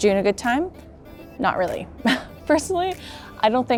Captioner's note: chuckles